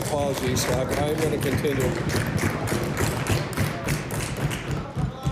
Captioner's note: applause